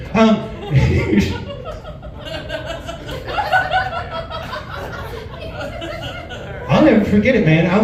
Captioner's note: laughs